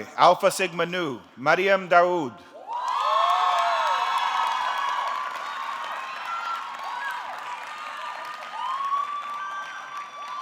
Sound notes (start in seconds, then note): 2.6 audience cheering; 2.6 audience clapping